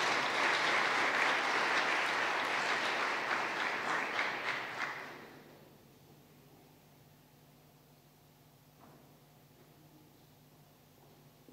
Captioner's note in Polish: oklaski